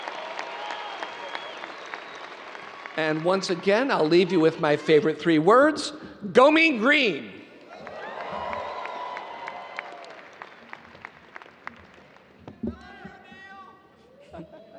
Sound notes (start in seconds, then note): 7.6 audience cheering and applauding